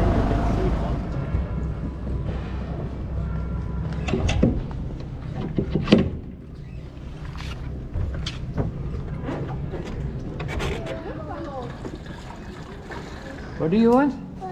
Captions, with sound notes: (boat rattling) What do you want?